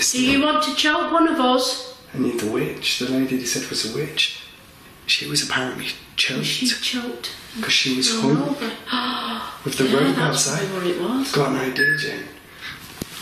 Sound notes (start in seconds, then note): 8.8 gasps; 11.8 alert beeping